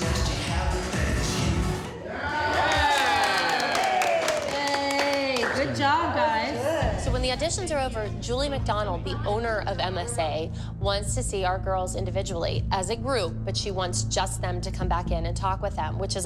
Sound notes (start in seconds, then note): 2.5 applause